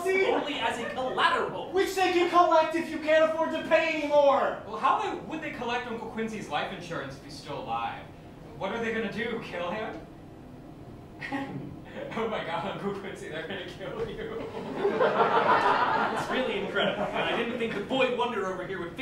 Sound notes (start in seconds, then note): 11.2 Robert laughs; 14.2 Robert laughs; 14.2 laughter